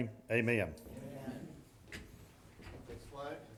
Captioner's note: group chanting